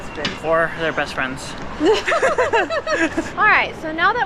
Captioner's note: both laugh